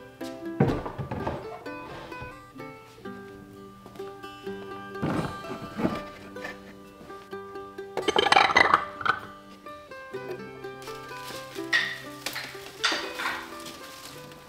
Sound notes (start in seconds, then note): 10.4 rustling